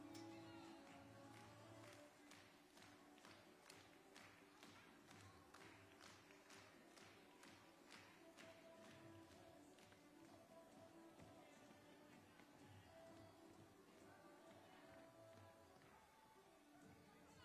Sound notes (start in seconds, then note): 0.0 upbeat music playing; 0.0 hands clapping; 9.9 upbeat music playing